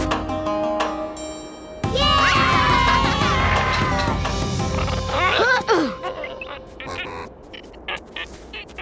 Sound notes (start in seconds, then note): 2.0 laughing, cheering; 4.8 grunting